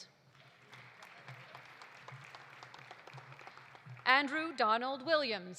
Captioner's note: audience applauding